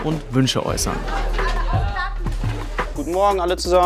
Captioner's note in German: Aufgewecktes Stimmengewirr